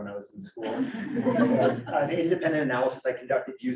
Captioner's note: audience laughing